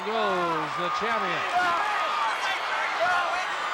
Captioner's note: Ric yelling